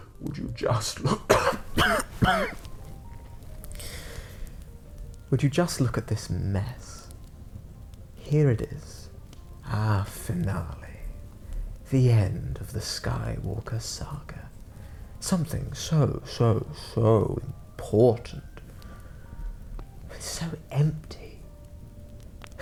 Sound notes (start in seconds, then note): 1.0 coughs